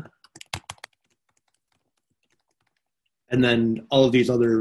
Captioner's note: computer keyboard clacking